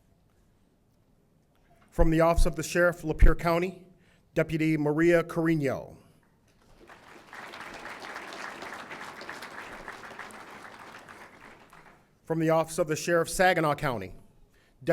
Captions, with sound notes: - From the Office of the Sheriff Lapeer County, Deputy Maria Carreno. (audience applauding) From the Office of the Sheriff Saginaw County,